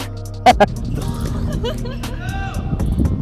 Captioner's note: laughing